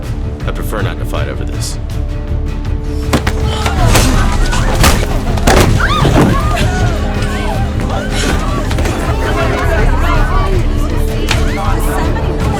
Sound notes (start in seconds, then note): 3.0 punching; 5.5 screaming